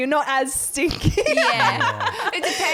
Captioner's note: laughing